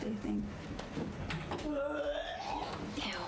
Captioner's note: loud Puking Sound